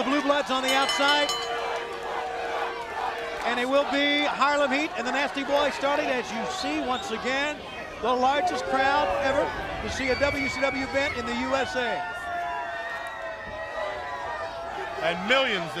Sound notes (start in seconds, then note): 2.1 bell ringing; 11.5 crowd chatter